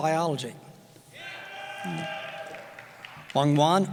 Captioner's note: cheering